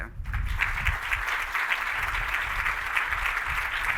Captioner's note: applause